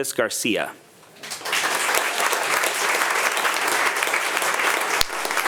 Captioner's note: attendees applauding